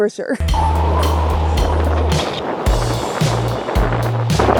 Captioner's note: water running